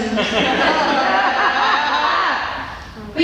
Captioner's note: laughter